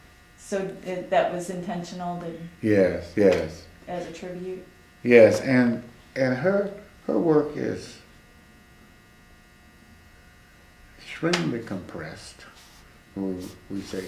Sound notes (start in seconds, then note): none